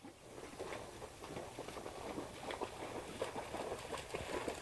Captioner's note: water splashes